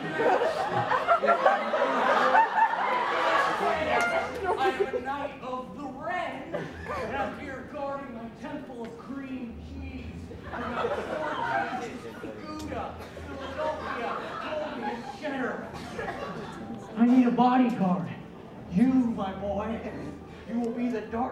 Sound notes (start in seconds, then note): 0.3 Doing a Nick Cage Impression; 6.4 more Laughing; 15.2 audience Laughs